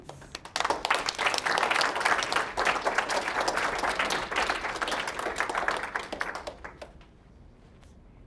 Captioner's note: applause